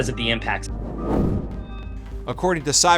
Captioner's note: screen whooshes